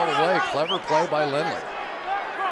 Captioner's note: whistles